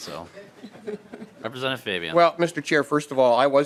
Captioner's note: laughter